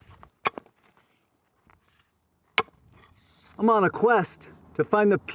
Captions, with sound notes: (digging) I'm on a quest to find the